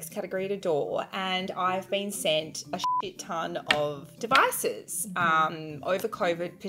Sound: beep

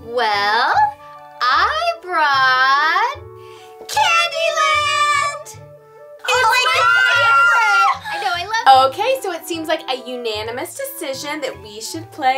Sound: screams

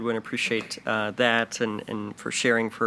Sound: none

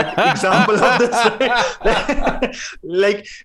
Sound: laughter

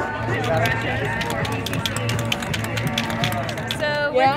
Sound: background ambience and spray paint can rattling

